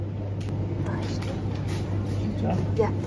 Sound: whispering

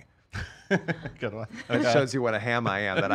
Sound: laughing

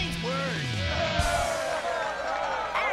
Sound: cheering

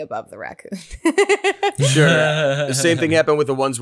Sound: laughs

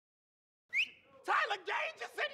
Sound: whistle

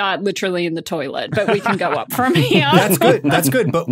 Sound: laugh

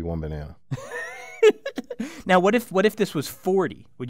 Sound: laugh

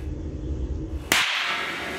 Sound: bang

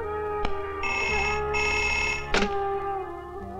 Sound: phone ringing

